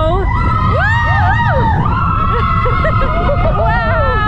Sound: shouts

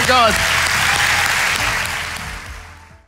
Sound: audience applauding

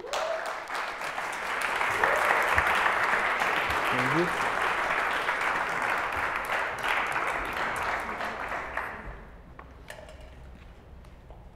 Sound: applause

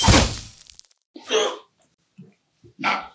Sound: Maaran winching in discomfort

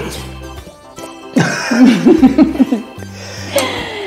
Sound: laughs

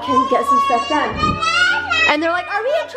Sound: kids screaming

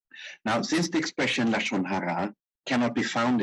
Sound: speaking in foreign language

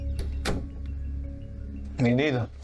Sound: door closes

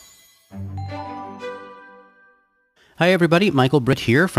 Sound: ding

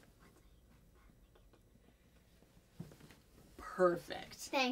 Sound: whispers

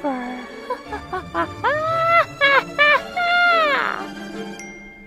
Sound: laughs

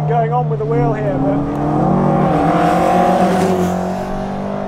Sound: engine revving

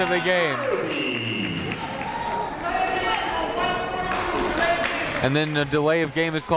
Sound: people shouting in the crowd

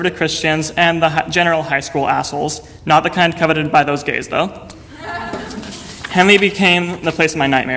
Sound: audience laughter

